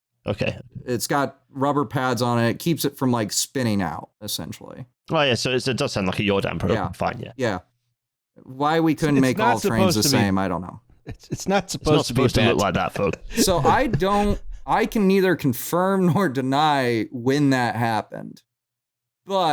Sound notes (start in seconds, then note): 11.0 laughing